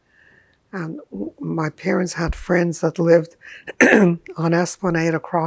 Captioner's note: clears throat